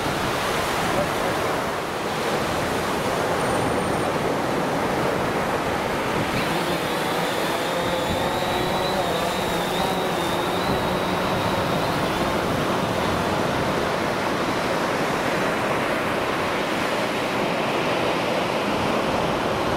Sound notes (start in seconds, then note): 6.2 whirring